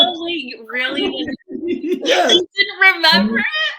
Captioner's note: laughing